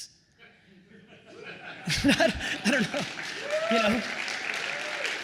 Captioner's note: attendees applauds